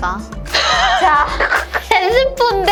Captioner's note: laughter